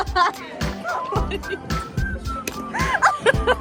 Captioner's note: giggling